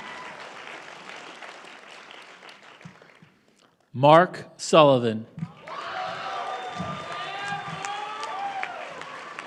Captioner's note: applause; applause